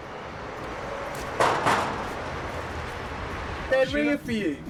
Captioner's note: banging on door